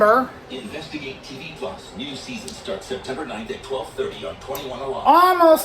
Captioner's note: "21Alive News at 5" plays in the background